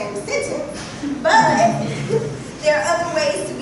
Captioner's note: laughter